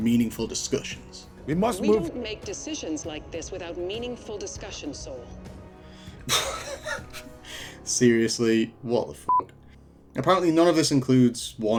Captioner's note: laughing